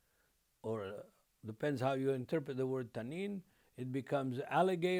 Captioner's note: speaking Hebrew